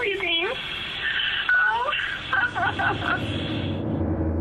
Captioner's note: sobbing